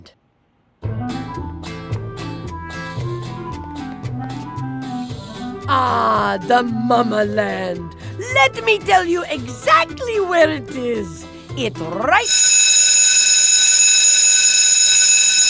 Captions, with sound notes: (INHALE) AHHH... THE MAMALAND. LET ME TELL YOU EXACTLY WHERE IT IS. IT'S RIGHT- (SCHOOL BELL RINGS LOUDLY)